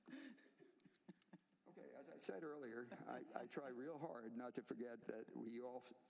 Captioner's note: laughter